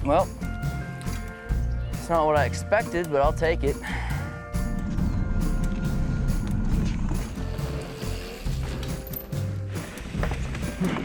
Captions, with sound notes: Welp, it's not what I expected, but I'll take it. (tires whirring) (cheery music)